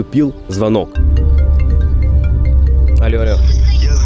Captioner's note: phone ringing